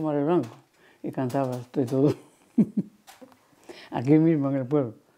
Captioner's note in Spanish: Ríe